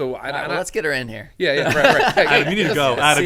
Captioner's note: laughs